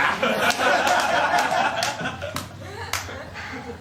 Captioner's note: laughter